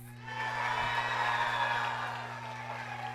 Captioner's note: applause